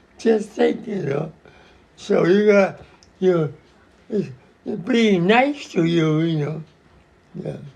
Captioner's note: <laughs>